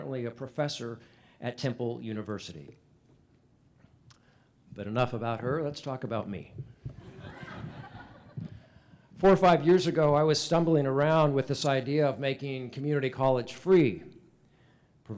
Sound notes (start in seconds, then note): 6.9 laughter